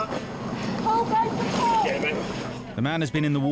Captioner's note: woman yelling orders